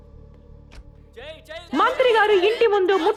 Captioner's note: sloganeering